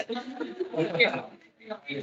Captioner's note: attendees laughing